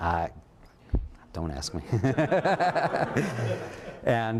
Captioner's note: laughter